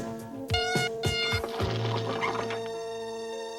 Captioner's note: beeping